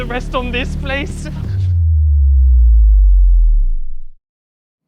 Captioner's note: booming sound